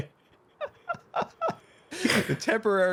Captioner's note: laughs